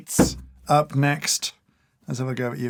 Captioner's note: thud